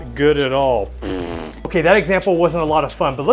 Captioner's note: scoffs